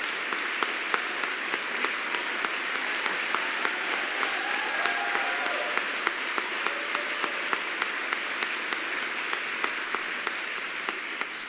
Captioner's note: applause